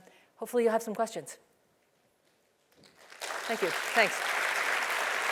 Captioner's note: applause